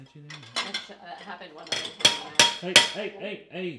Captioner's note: plate knocking on table